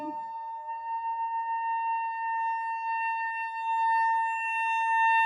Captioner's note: high-pitched whistling continues